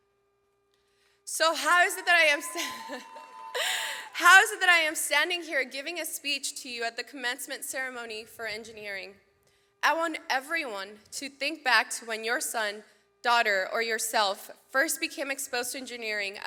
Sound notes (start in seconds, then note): 1.3 audience cheers; 2.2 laughs